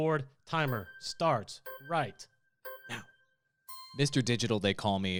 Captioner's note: melodic timer